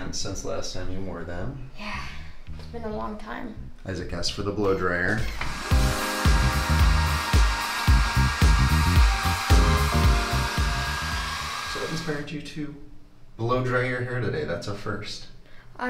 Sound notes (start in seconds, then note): 5.2 hairdryer blows; 5.6 retro music